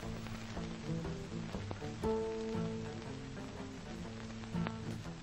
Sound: light ambient film crackling

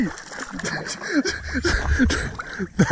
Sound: gasps

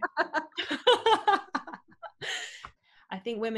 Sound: both laughing

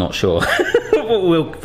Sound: laughing

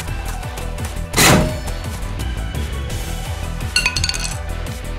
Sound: clash

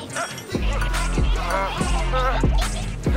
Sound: guard 1 whimpering

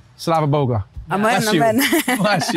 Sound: speaking in foreign language

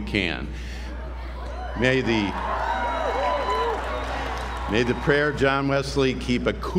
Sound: applause

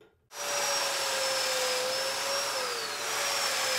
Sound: saw brattling

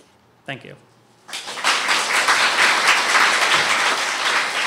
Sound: applause

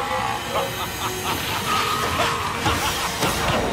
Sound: laughing

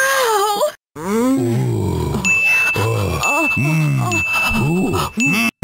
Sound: really overdone moaning

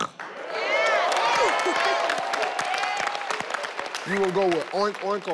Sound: snorting; all cheering and clapping

